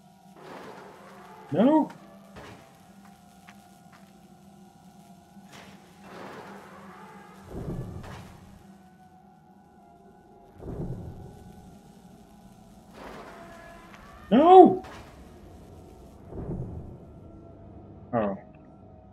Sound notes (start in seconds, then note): 0.3 creak of door closing; 5.4 creak of door opening; 12.8 creak of door closing